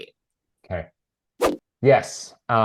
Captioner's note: image whooshing